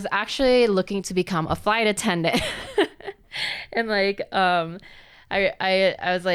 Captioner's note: laughs